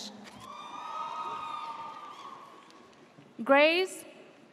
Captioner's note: audience cheers